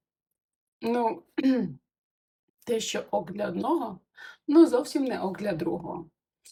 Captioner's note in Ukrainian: прочищення горла